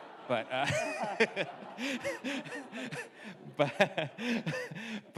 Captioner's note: audience laughs; chuckles